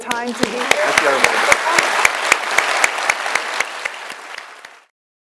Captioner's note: audience applauds